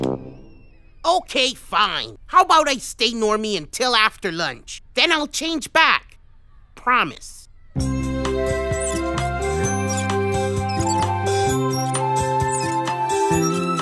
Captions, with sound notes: OKAY, FINE! HOW ABOUT I STAY NORMY UNTIL AFTER LUNCH? THEN I'LL CHANGE BACK. PROMISE. (TEETER-TOTTER CREAKS) (SOFT MUSIC PLAYS)